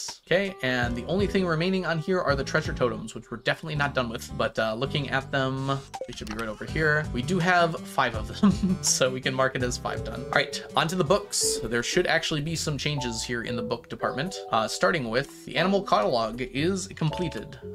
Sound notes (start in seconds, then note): 8.4 laughs